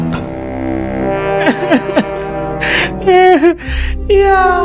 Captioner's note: laughs evilly; crying